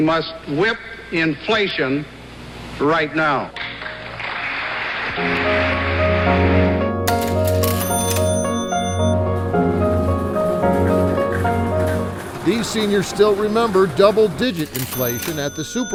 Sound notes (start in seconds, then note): 3.7 audience applauds; 7.1 register dings